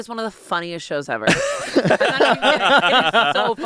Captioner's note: everyone laughs